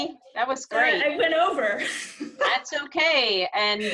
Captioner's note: laughs